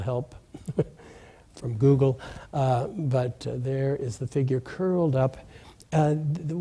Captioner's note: laughs